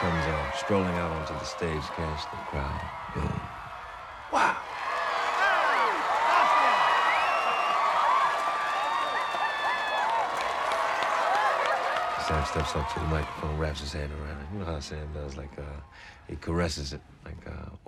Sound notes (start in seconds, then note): 5.8 cheering